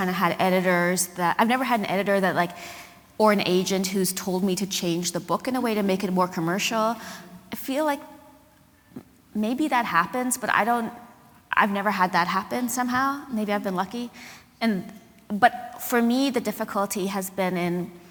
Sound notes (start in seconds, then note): none